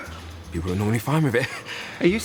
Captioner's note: laughs